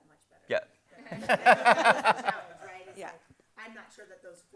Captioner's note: crowd laughs